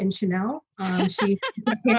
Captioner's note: everyone laughs